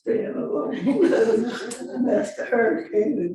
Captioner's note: laughing